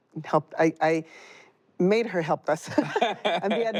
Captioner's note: both laughing